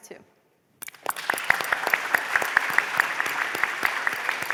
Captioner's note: applause